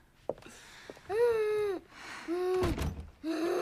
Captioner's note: Helen Moans